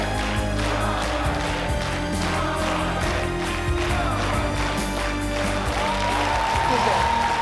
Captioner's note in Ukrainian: оплески